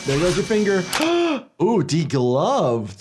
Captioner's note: doctor gasps